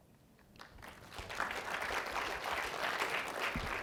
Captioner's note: applause